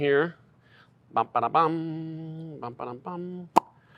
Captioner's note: humming